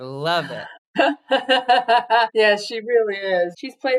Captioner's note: laughs